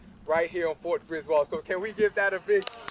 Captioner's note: applause